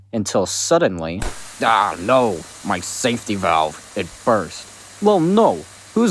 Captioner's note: pop and hissing sound